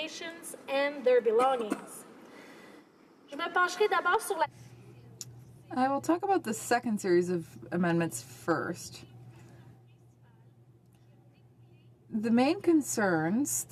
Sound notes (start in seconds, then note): 7.5 speaking French